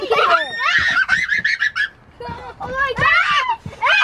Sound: squealing

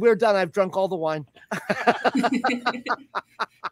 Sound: laughter

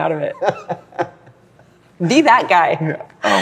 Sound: laughs

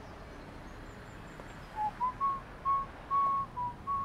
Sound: whistling

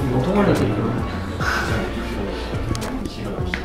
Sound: laughing

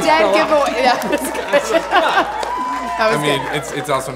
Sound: laughs

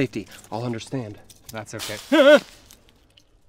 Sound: rustling

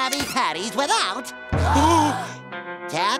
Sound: gasps

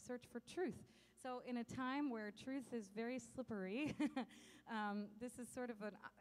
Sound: chuckles

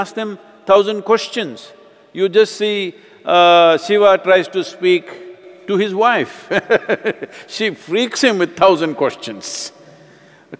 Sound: laughs

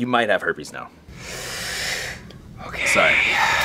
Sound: breathes in

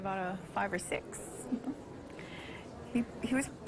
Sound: laughter

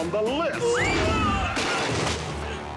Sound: screaming

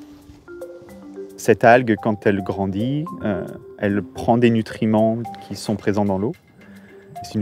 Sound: speaking in French

